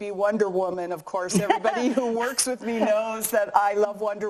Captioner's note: laughing